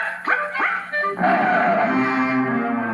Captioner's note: Screech